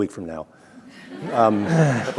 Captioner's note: chuckling